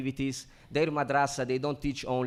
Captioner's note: speaks foreign language